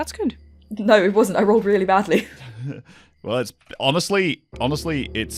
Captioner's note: laughs